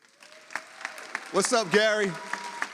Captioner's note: audience applauds